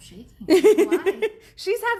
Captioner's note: laughs